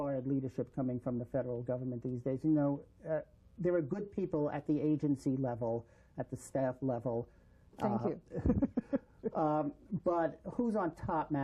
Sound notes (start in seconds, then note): 8.2 laughter